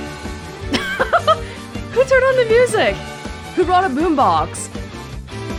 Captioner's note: chuckles